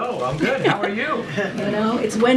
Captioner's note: laughter